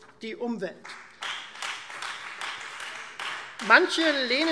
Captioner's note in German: Beifall Freie Demokraten